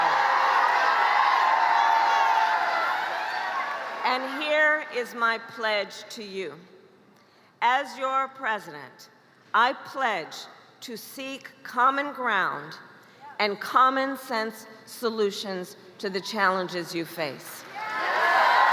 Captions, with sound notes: I am asking for your vote. [crowd cheers loudly] And here is my pledge to you: As your President, I pledge to seek common ground. and common sense solutions to the challenges you face.